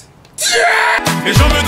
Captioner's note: shout